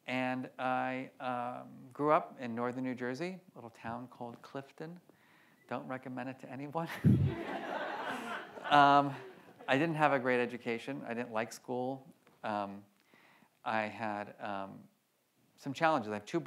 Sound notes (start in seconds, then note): 7.0 laughs; 7.1 audience laughs